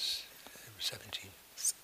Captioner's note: whispers